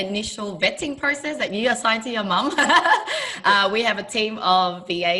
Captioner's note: laughing